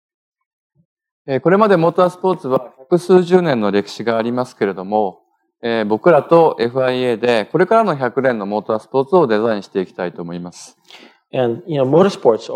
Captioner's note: speaking japanese